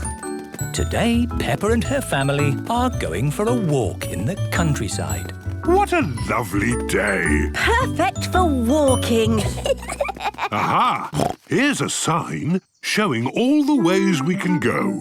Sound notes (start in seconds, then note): 9.3 children giggling; 10.5 snorts